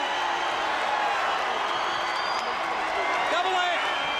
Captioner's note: crowd cheering